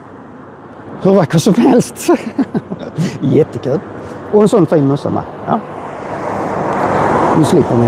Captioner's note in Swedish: skratt